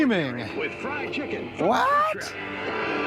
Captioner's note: loud speaker